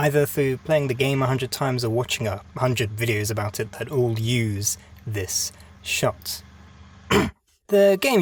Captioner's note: cough